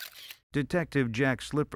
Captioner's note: camera flash